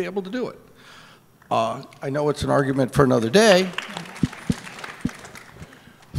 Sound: applause

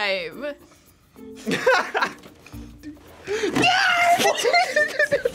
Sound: laughs; screams

